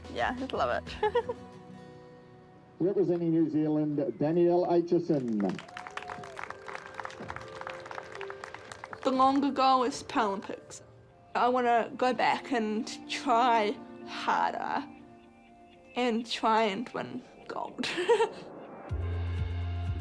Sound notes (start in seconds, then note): 0.9 giggles; 7.7 cheering, applause; 17.8 laughs